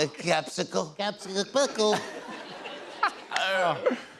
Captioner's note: as Trump; laughter; normal voice